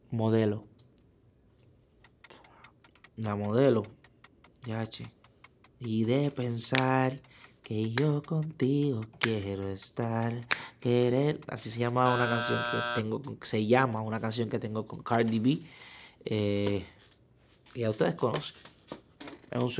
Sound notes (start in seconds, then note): 4.6 singing in foreign language; 12.1 negative beep; 13.6 speaking in foreign language